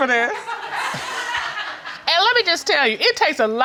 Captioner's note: audience laughing